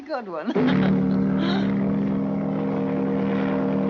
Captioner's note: chuckles; horn Blowing